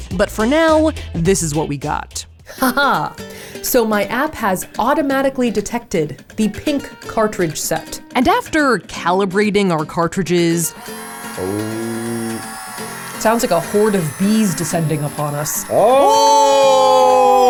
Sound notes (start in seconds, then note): 2.9 lively music; 10.7 machine buzzing